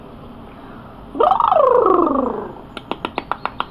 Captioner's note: high Pitched Blubbering; clapping